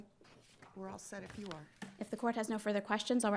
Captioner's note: papers rustling